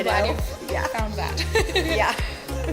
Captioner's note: laughs